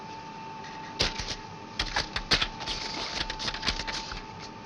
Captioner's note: paper rustling